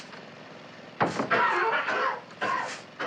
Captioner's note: Mac coughing